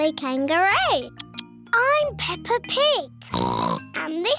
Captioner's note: oinks